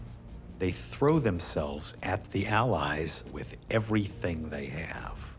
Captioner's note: none